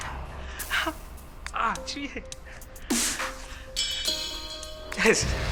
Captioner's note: Clive groaning